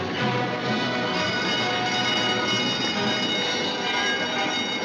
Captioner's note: fire alarm ringing